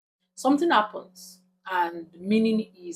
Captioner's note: paause